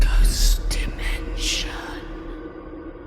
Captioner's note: ghostly Voice